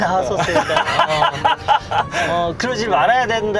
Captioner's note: laugh